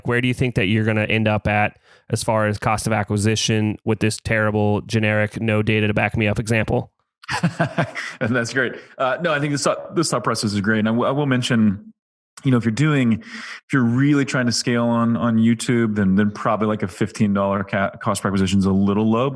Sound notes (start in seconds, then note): 7.2 laughs